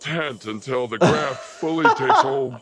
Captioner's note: laughs